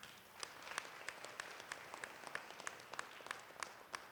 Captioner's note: applause